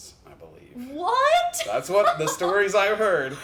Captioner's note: laughs